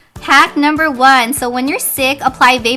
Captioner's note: voiceover